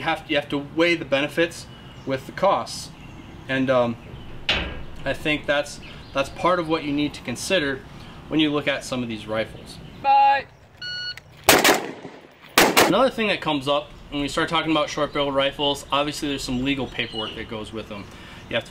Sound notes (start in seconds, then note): 10.3 range instructor yelling; 10.8 beep; 11.4 gun firing